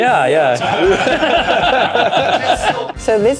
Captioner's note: laughter